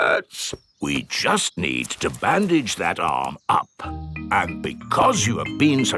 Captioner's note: in teddy's voice; in normal voice